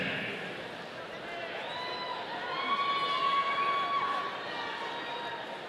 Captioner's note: audience cheering